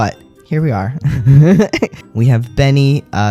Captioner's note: laugh